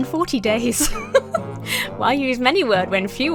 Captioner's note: laughs